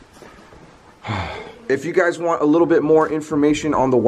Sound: sighs

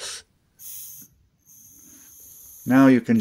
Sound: hissing sound

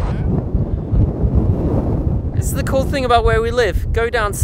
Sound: wind blowing

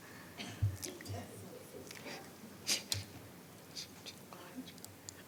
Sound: speaking faintly

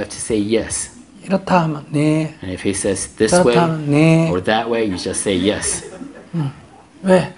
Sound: audience Laughter

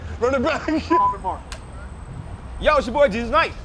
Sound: clapperboard

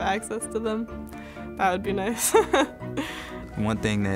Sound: chuckling

